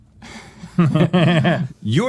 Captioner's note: laughing